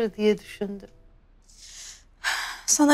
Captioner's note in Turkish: Nefes sesi